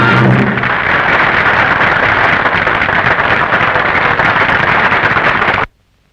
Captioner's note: applause